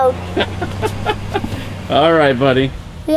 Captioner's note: laughs